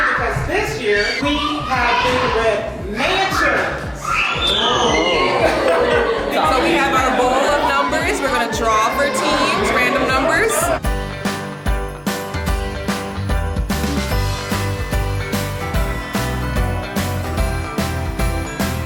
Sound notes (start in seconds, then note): 4.5 kids screaming; 5.1 mom laughs; 11.6 bright cheerful music